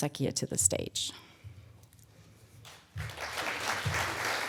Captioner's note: applause